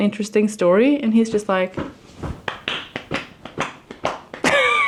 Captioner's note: tapping